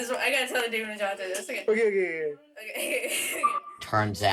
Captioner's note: laughs